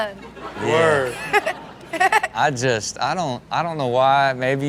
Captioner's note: Chanel laughing